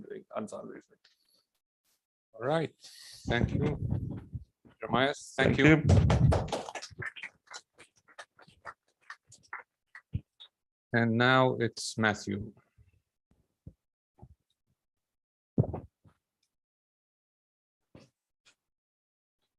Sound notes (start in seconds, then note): 5.8 applause